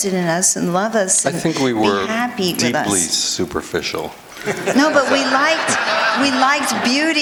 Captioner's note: laughter